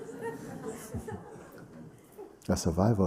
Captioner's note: laughter